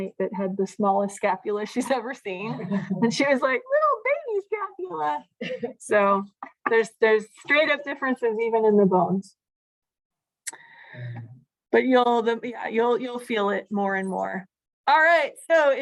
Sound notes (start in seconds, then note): 2.4 laughter